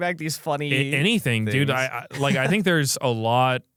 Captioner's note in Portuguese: risos